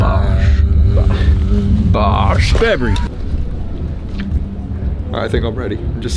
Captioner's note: humming